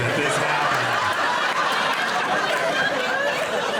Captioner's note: audience laughing